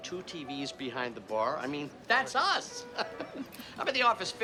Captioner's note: laughs